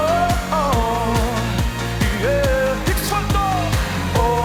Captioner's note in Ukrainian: оплески